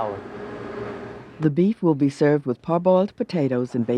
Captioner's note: voiceover